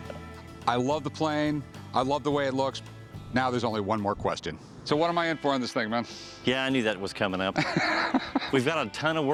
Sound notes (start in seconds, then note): 7.6 laughs